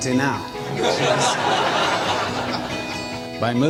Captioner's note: audience laughs